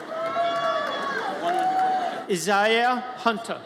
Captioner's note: audience cheers